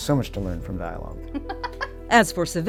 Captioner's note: chuckles